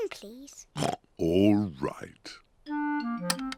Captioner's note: oinks